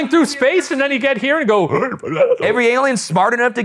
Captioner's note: imitate alien chattering